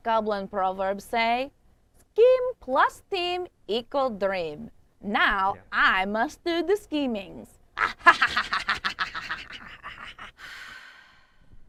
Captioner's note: laughs maniacally